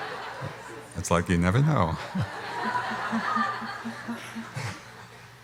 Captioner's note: laughs